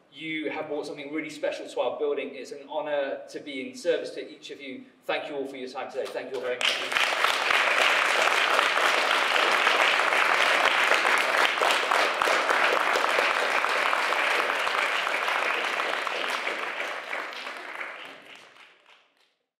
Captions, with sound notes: You have brought something really special to our building. It is an honor to be in service to each of you. Thank you all for your time today. Thank you all very much. (audience applauds)